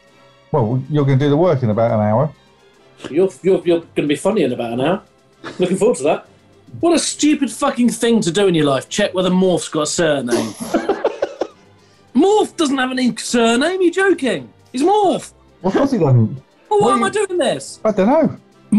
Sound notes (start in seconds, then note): 10.3 giggling